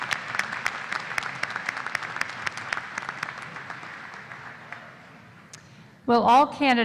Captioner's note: applause